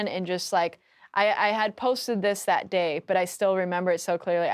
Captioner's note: none